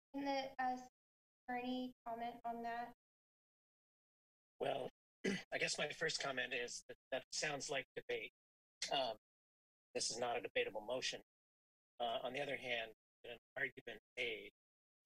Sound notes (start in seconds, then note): 5.2 clears throat; 12.0 clears throat